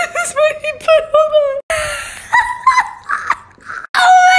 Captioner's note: wheezing